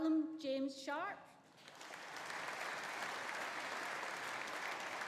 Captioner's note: audience applauding